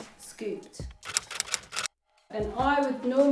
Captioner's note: keyboard typing